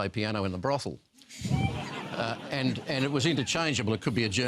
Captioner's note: laughter